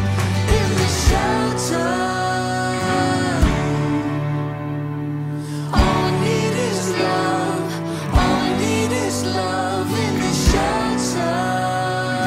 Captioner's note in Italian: Applauso